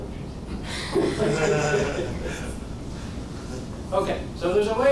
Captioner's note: audience laughing